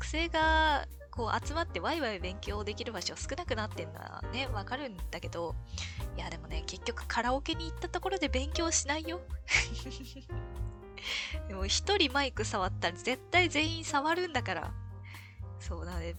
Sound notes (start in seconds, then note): 9.5 laughs